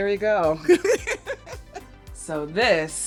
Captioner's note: laughs